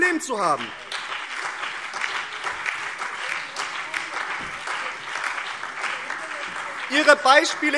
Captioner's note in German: Beifall BÜNDNIS 90/DIE GRÜNEN, SPD, DIE LINKE und vereinzelt CDU